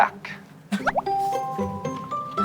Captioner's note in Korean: 푸흡